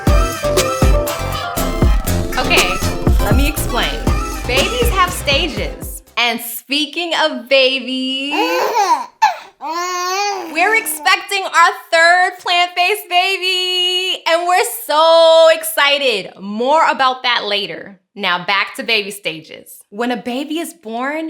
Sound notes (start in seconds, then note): 8.3 baby laughter